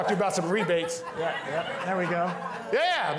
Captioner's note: all laughing